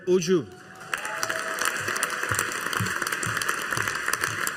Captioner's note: audience applauding